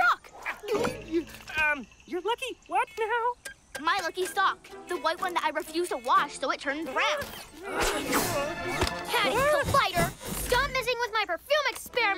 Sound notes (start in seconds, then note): 0.3 gulps; 7.4 nervous whimpering